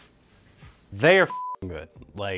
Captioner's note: beep